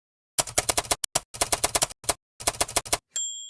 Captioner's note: typewriter